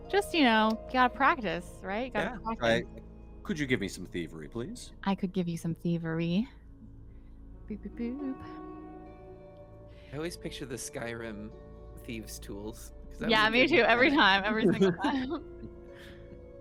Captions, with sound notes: Just gotta practice, right? - Yeah. - You gotta practice. - Right. Could you give me some thievery please? - I could give you some thievery. Bee-beep-boop. - I always picture the Skyrim thieves tools because- - Yeah, me too, every time, (Cornette laughs) every single time.